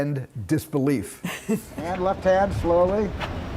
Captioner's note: Lesley laughing